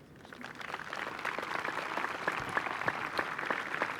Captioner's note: applause